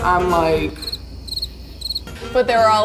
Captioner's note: crickets chirp